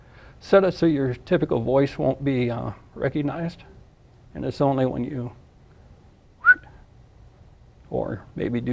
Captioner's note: makes a whistle sound